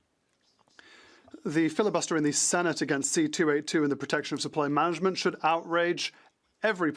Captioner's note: speaking French